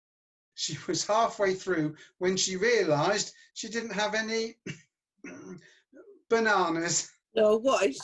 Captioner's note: clears throat